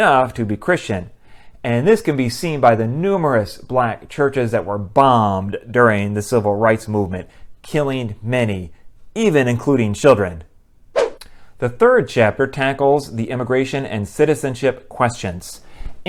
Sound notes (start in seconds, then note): 10.9 swoosh